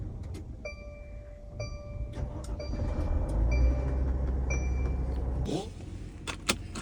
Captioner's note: alarm sounding; van engine revving; seatbelt clanking